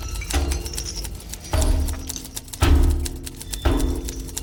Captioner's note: typewriter clicking